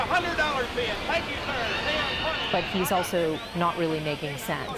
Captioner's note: auctioneer speaking rapidly